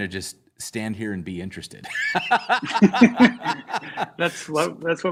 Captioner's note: laughter